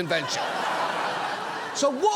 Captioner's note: audience laughs